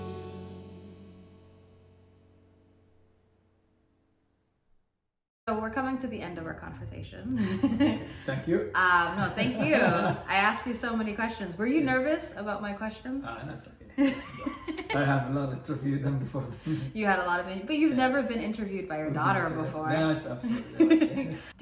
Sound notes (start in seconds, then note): 0.1 soft piano music ends; 7.4 chuckles; 14.0 both laugh